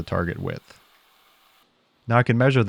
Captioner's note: mill whirring